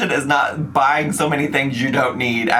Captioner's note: none